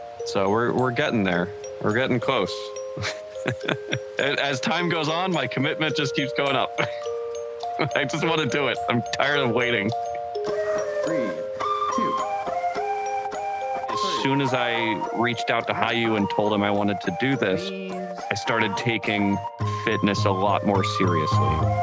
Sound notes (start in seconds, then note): 2.9 giggles; 6.6 giggles; 13.2 upbeat music